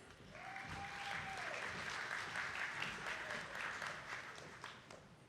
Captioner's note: attendees clapping